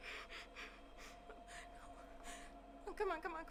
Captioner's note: Hailey panting